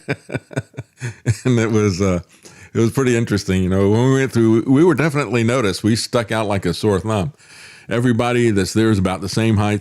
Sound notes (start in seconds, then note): 0.0 laughs